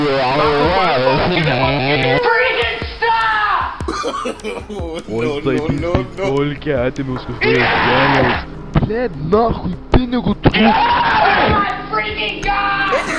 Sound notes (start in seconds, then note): 1.7 speaks an unknown language; 3.8 chuckles; 6.9 speaks Russian; 9.6 russian swearing